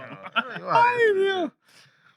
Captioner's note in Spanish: Hablando en idioma extranjero